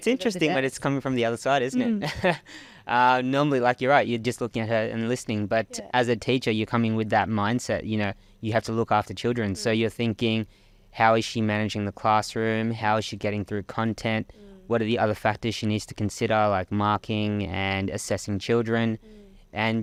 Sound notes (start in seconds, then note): 2.1 laughing